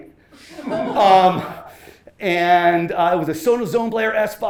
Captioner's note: laughter